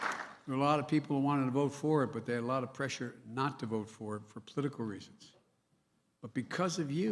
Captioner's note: cheers and applause